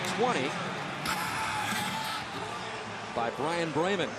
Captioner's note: pa announcement